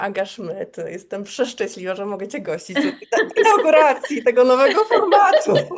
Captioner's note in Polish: śmiech